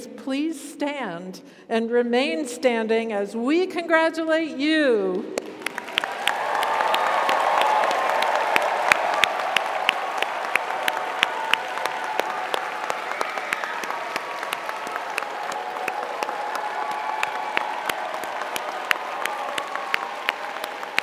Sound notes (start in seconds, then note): 5.6 audience applauds; 5.6 audience cheers